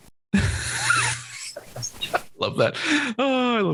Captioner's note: laughs